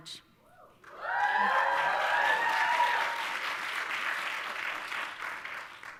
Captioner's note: audience applauding and cheering